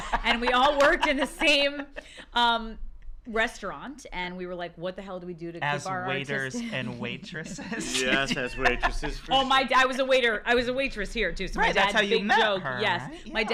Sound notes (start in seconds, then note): 0.0 laughs; 6.5 laughs